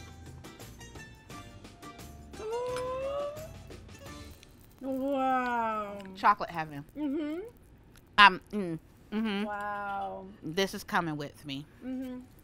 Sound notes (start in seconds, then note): 0.0 bright music; 3.3 gasps